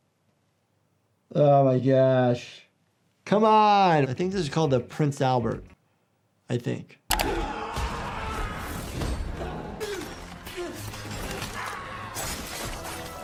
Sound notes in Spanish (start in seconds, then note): 7.1 víctima gritando